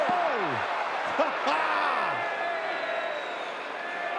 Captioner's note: audience cheering